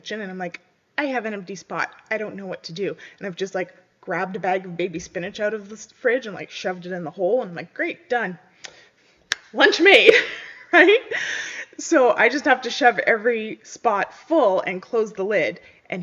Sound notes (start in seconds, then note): 10.1 chuckles